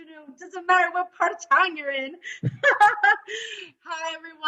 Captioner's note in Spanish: risas